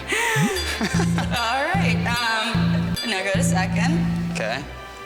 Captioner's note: laughing